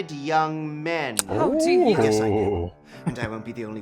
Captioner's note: chuckling